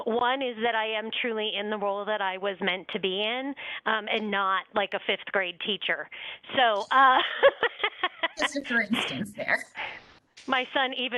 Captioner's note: laughter